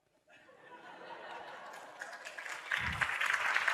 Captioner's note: laughter, Clapping